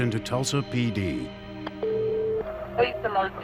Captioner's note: phone beeps